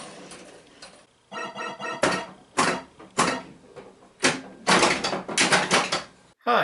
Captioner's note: pinball noises